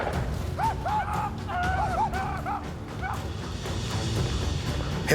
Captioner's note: shawnee war cries